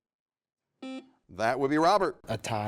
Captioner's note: buzzer buzzes